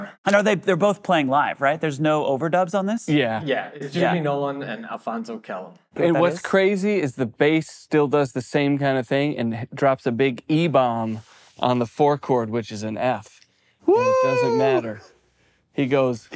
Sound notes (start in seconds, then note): 13.8 impressed exclamation; 15.7 plays bass